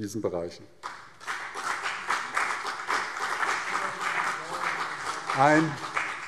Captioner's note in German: Beifall CDU und BÜNDNIS 90/DIE GRÜNEN